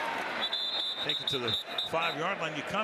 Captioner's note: whistle